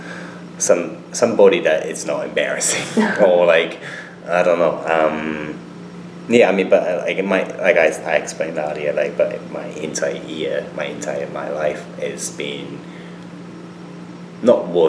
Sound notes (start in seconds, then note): 2.6 chuckles